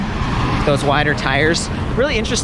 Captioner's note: traffic whooshes